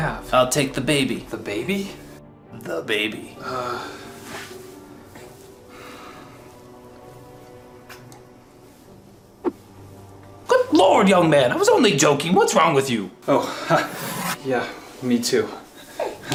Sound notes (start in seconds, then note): 7.9 kiss